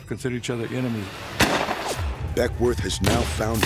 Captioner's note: gunshot